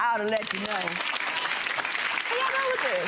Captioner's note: gallery applaudes